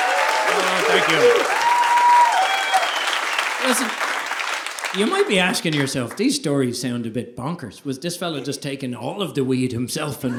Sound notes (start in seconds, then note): 2.3 audience applauding; 2.3 audience cheering